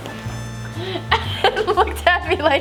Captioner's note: laughs